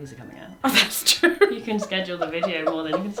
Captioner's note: laughs